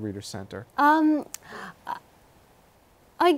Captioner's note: laughs